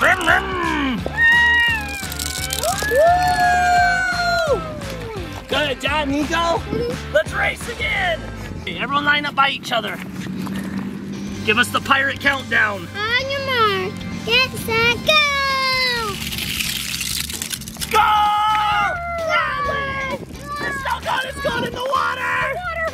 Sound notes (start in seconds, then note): 1.7 everyone cheering